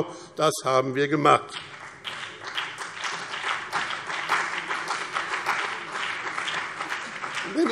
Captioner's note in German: Beifall BÜNDNIS 90/DIE GRÜNEN und CDU